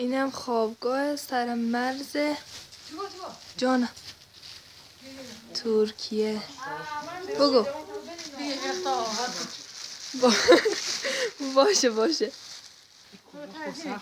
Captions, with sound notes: This is a house on the Turkish border. [Dari spoken audio]